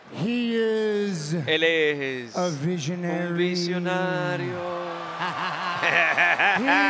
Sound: laugh

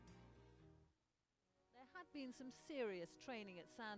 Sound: voiceover

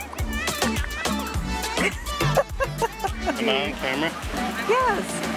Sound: laughs

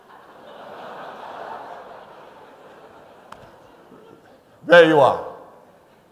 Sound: laughter

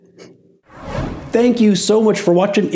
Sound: frame whooshes

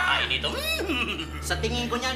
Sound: neighing

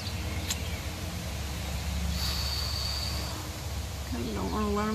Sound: I'm exhaling, and sighing as I contemplate

